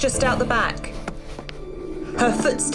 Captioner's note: footsteps